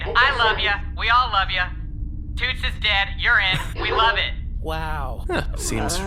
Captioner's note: faint laughter